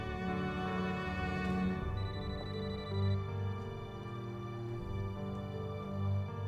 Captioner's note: suspenseful music; phone ringing